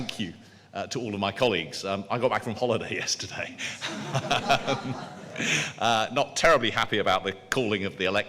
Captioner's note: laughter